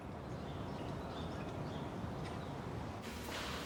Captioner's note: birds chirping